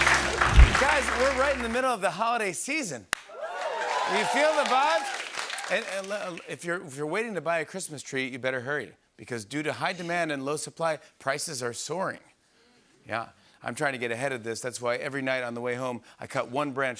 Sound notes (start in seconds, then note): 3.2 cheers and applause